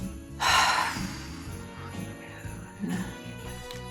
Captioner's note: sighs